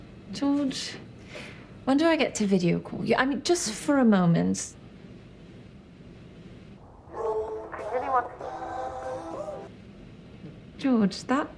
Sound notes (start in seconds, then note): 7.7 ringtone playing